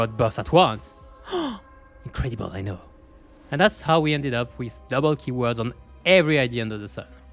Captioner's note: gasp